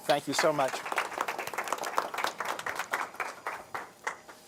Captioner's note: applause